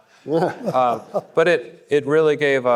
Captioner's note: panelists laughing; audience laughing